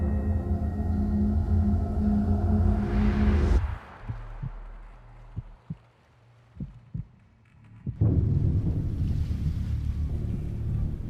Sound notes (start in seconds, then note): 3.8 heartbeat thumping; 8.0 worrisome music